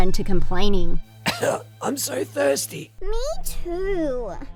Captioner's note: coughing